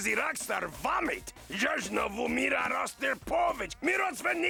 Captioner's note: speaking foreign gibberish